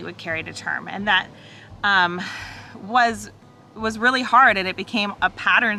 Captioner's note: sighs